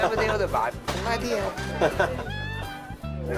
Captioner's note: chuckles